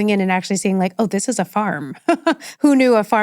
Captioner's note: laughs